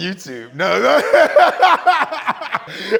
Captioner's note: laughter